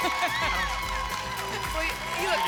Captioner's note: laughs